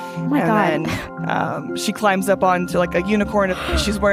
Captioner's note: laughs